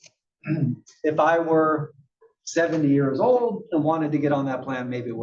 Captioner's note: cough